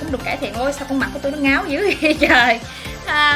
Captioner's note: laugh